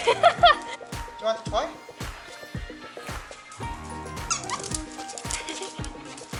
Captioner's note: laughter; laughter